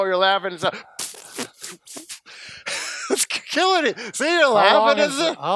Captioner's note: squeals